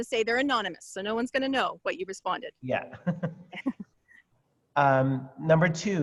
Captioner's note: laughs